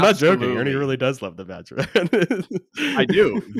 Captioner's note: laughs